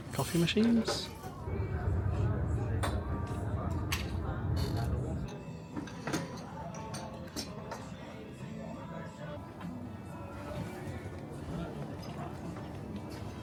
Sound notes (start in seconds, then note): 6.4 crockery rattling; 10.7 soft music